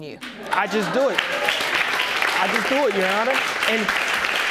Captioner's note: audience clapping